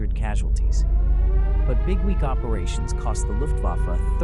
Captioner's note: air raid siren wailing